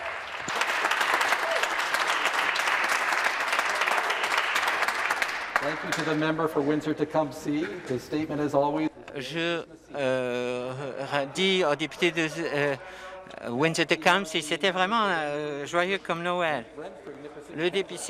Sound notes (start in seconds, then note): 0.0 cheering and Applause